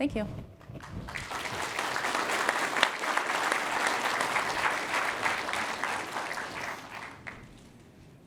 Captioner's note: applause